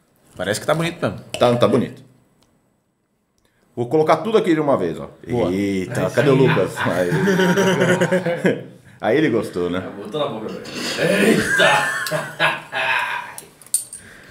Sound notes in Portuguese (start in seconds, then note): 8.3 risos; 13.6 risos